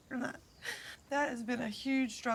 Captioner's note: inhales deeply